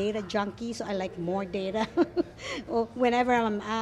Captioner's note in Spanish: risas